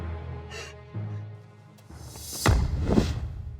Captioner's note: woman sniffling